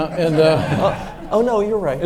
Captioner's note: audience laughs